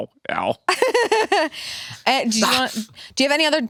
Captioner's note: laughs